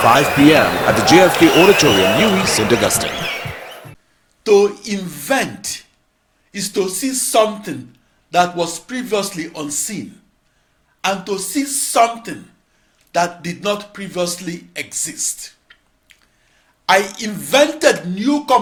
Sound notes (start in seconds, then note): 2.3 wild applause and cheering for 22 seconds